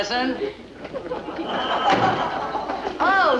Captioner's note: audience laughing